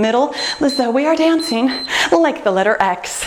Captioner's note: timer beeps